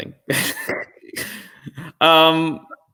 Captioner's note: laugh